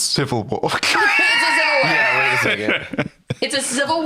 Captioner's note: laughs